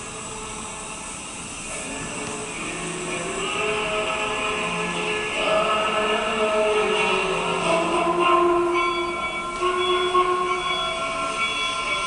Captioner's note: train noises and music